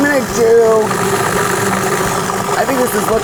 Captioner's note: humming